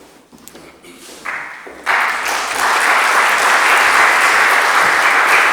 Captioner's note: audience applauding